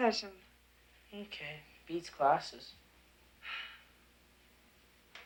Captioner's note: Jan sighs